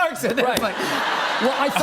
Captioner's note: laughter